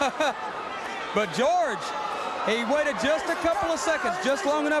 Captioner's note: crowd chatter